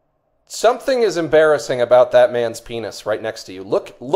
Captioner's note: continues over television